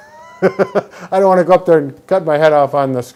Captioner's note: laughs